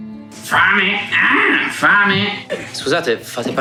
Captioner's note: squawking